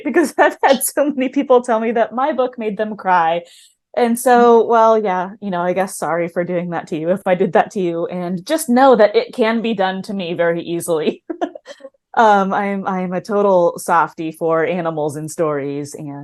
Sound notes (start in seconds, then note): 11.2 chuckles